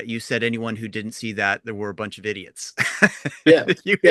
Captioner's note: laughs